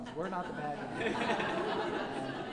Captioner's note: laughing